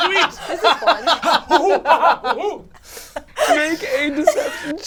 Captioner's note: all laugh